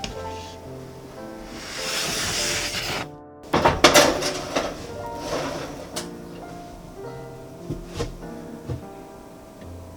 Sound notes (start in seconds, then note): 3.4 heated oven